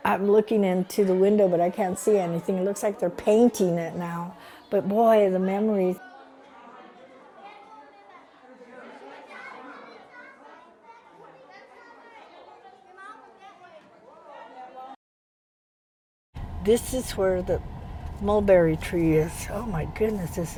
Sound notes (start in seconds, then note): 8.7 children chatting